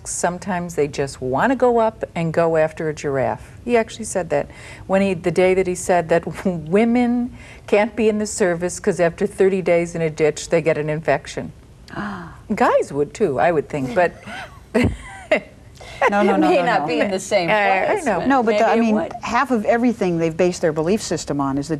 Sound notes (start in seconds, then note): 11.9 gasps